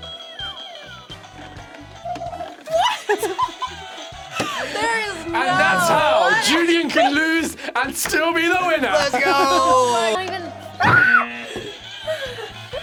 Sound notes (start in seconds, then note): 2.0 laughs; 10.8 screams